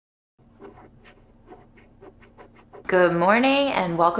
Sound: images shuffling

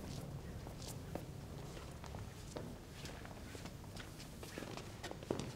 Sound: footsteps tapping floor

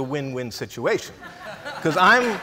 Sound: laughs

